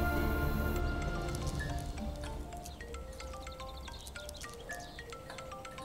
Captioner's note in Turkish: Telefon çalar